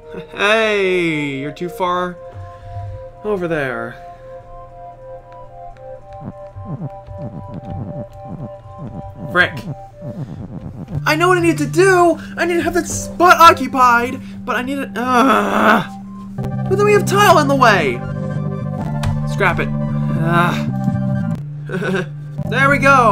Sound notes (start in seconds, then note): 19.8 exasperated sigh; 21.7 nervous laugh